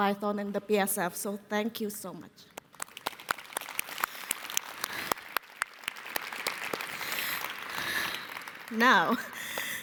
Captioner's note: applause